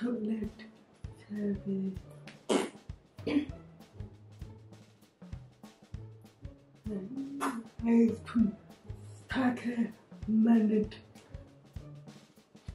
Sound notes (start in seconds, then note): 2.4 blows raspberry